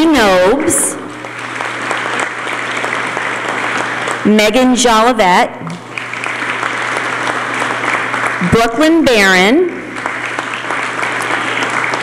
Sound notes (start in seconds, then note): 1.0 applause; 5.7 applause